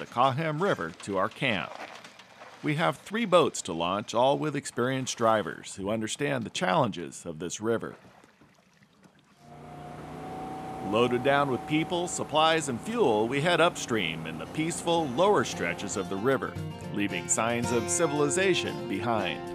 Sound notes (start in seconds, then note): 8.5 boat engine running